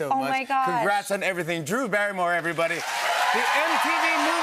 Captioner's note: cheers and applause